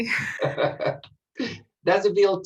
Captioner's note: laughs